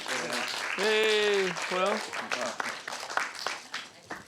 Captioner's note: all applauding